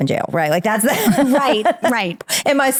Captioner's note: laughing